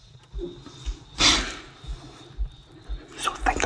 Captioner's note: Inhales depply